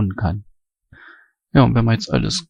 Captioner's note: strong breathing